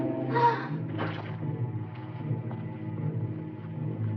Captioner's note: Lady Haloran gasping